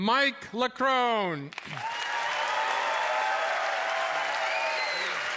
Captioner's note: cheers and applause